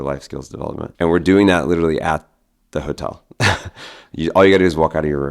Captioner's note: chuckles